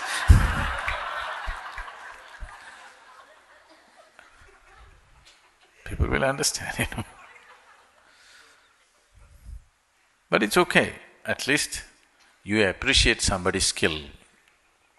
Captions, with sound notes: [Laughter] People will understand, you know? [Laughs] But it's okay, at least you appreciate somebody's skill,